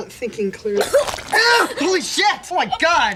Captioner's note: vomits